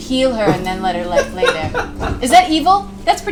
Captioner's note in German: lacht